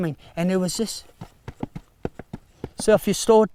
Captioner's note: feet tap rhythmically